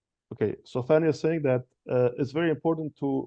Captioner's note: speaking in French